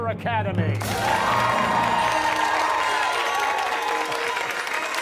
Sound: cheers and applause

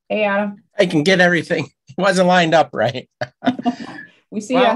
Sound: laughs

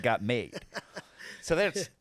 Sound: laughing

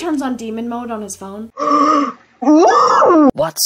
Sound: gaaasp

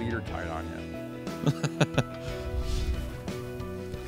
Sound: laughing

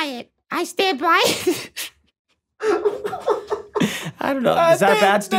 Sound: Rob laughing; laughing

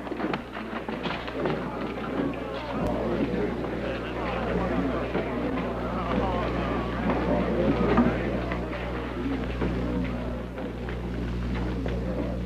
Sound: crowd talking

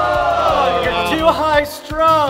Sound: cheering; booing

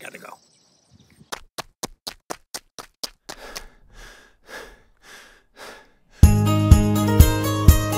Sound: foot steps and panting

